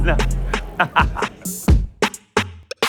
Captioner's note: laughs